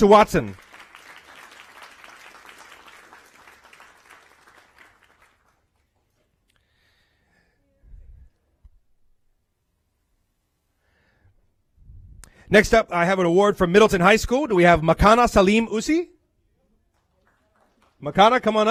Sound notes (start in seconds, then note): 5.8 applause